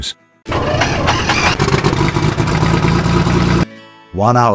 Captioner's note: Rocket Wagon starting